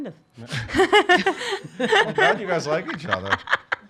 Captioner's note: laughs